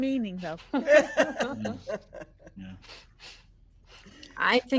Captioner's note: people chuckling